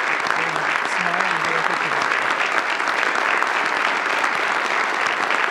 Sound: audience applauds

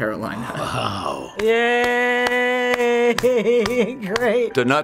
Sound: laughs

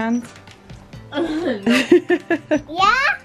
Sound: laughs

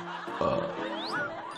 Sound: burp

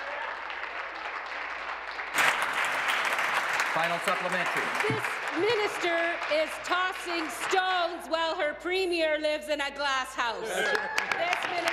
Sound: applause

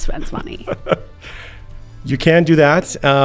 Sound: laughing

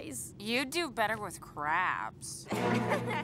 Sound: giggling

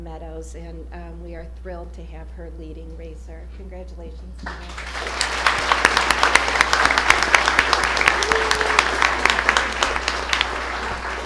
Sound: applause

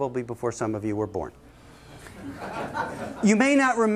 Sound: laughter

